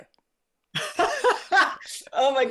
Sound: both laugh

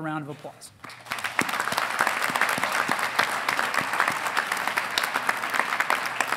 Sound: audience applauding; audience cheering

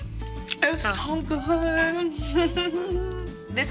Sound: giggles

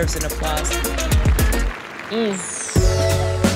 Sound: people clapping; upbeat music

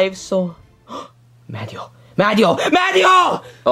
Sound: gasps

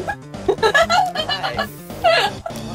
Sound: laughing continues

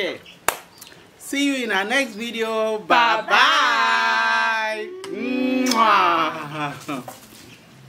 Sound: kisses

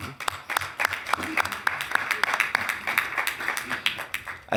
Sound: members clapping

